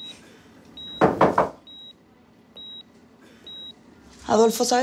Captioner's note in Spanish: Toques en la puerta